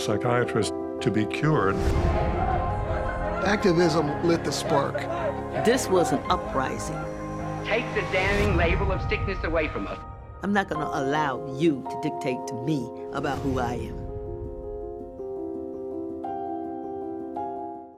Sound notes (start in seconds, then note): 2.0 crowd chanting; 15.1 piano notes